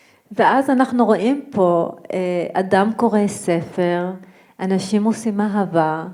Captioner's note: speaking in foreign language